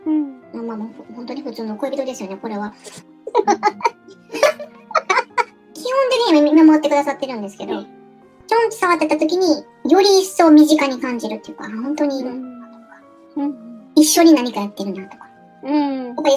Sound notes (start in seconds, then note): 3.2 laughs